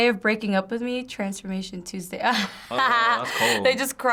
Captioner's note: laughs